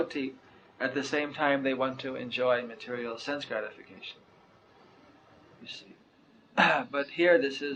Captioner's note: clears throat